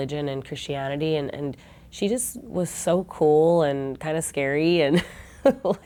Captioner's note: laughter